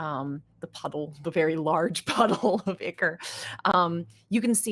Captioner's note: laughing